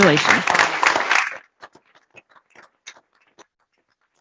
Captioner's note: applause